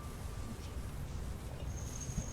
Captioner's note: whispers